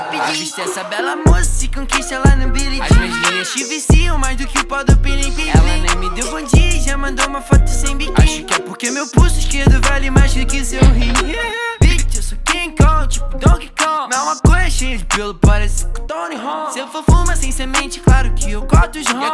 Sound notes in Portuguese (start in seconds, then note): 9.8 Hah-hah